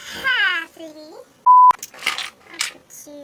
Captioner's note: beep